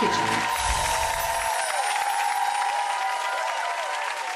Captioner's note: cheering